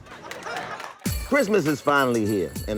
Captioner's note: audience laughs